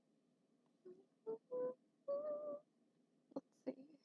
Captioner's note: humming